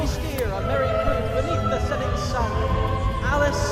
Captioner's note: voiceover